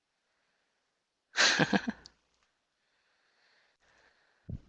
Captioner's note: laughing